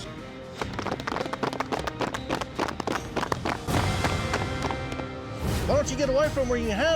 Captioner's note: applause